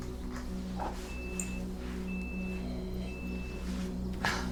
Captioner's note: beeping